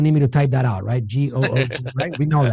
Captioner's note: laughs